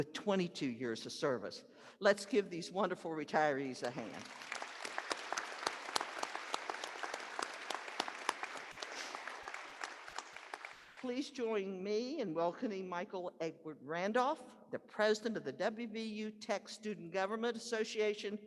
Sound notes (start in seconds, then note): 11.2 applause